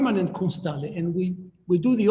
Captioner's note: speaking in foreign language